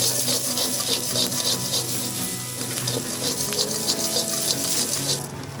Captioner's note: sizzling